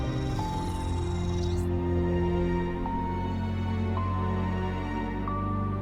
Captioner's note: gentle music continues; electricity fizzing